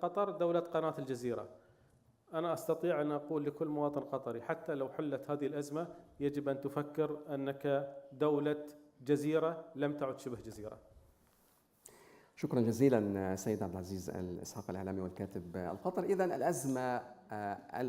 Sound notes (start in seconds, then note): 11.7 speaking in foreign language